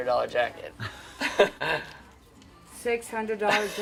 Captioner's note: laughing